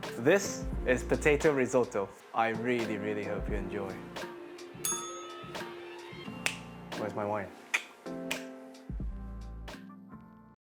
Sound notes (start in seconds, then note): 4.8 bell rings